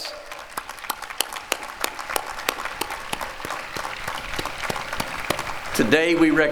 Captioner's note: applause